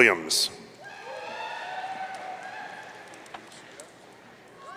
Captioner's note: audience cheering